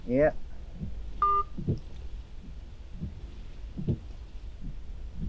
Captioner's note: phone beeping